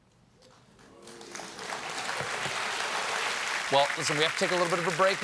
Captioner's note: applause